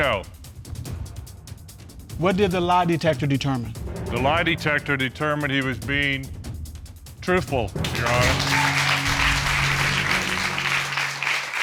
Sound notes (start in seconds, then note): 7.8 audience applauding